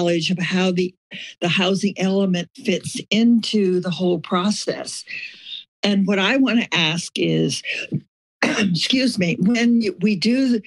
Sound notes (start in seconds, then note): 8.4 coughs